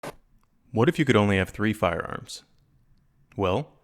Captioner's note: voiceover